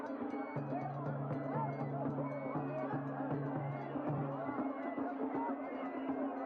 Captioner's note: people chattering; instruments drumming